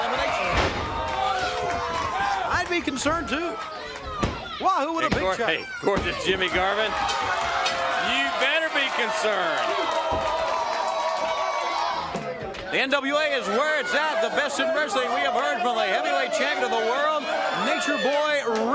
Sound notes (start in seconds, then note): 1.9 crowd chatter; 10.3 crowd cheering